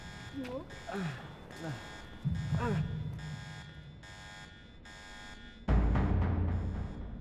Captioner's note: alarm blaring; Daniel groaning; alarm blaring; suspenseful music